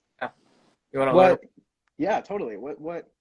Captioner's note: murmuring